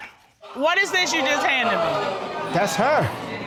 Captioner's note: audience exclaiming